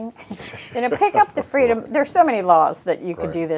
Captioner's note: chuckles